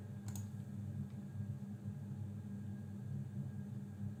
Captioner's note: mouse clicks